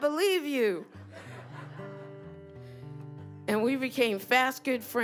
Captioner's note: laughter